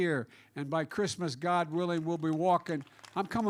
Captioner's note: applause